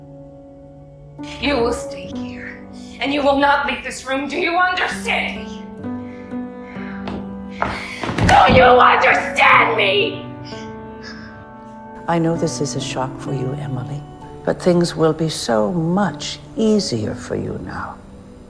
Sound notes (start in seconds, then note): 1.6 voiceover; 8.5 shouting; 12.4 voiceover